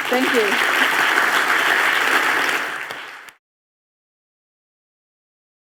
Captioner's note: applause